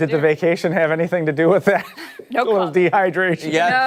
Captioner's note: laughter